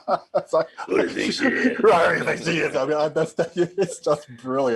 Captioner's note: both laughing; both grumbling